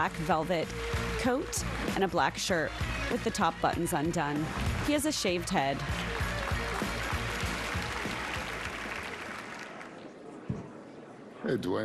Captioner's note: applause